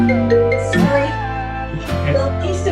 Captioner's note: phone still ringing